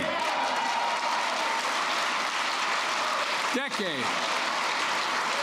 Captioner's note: applause